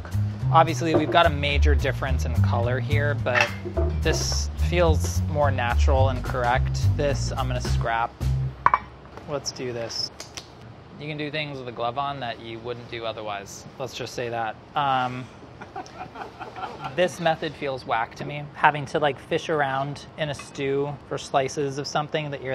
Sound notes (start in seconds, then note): 10.3 smacking; 15.6 laughing